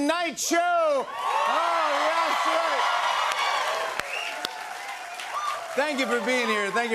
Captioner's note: cheers and applause